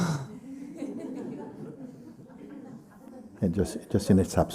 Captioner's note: laughter